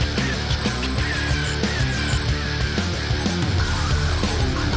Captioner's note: interface whirring